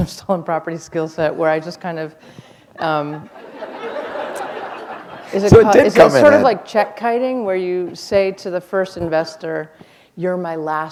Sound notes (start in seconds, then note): 2.8 laughter